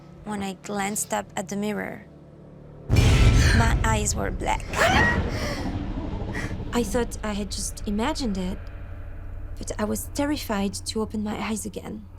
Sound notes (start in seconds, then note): 4.6 gasping